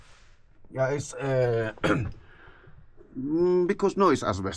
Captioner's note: speaks in foreign language; clears throat